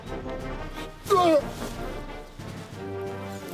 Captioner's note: retches